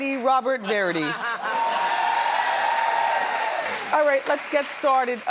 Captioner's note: audience cheers